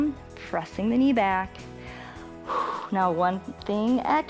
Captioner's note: inhales and exhales